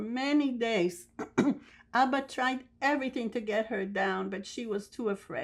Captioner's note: clears throat